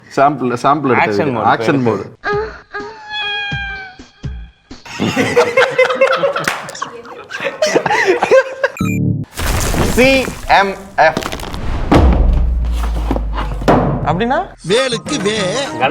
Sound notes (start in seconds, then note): 4.8 everyone laughs